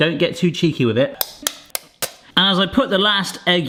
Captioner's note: knife tapping